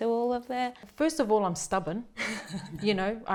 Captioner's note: chuckles